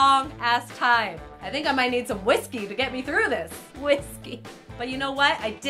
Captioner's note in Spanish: risa